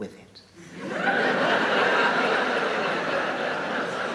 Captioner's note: audience laughs